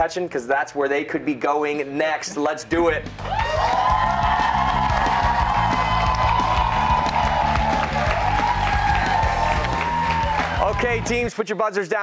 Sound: cheers and applause

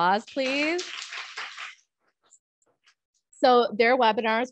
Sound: applause

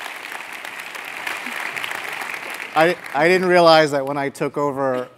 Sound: applause

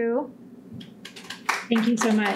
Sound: audience clapping

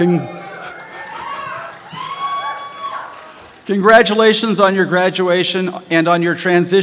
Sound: applause

